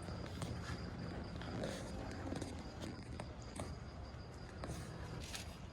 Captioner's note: crickets chirping